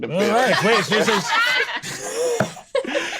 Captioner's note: laughs